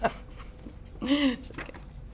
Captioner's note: laughter